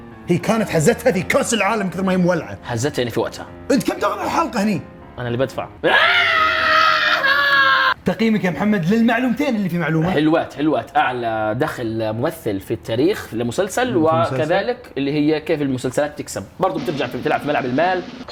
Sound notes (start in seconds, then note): 5.8 screams and laughs